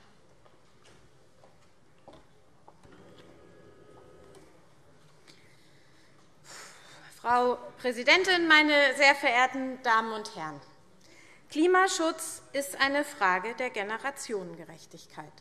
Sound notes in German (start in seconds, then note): none